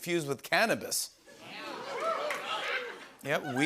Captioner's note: scattered cheers